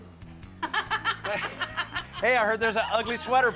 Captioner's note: laughing